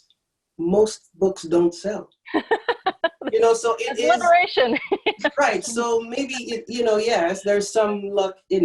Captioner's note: laughter